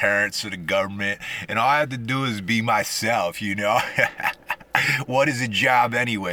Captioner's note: haha